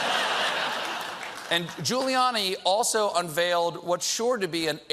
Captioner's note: laughter